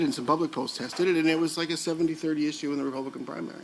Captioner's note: none